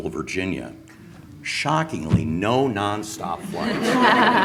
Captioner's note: laughing